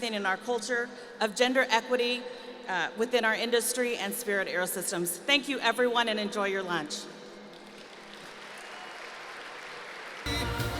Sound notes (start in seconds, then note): 7.5 applause